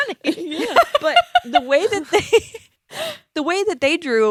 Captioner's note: laughs